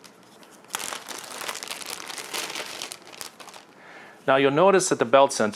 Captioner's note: plastic rustling loudly